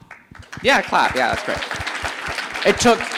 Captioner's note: audience applauding